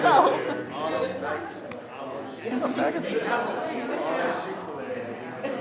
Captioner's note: people murmuring and laughing